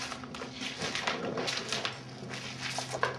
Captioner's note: footsteps